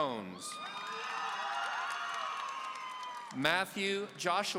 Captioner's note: audience cheering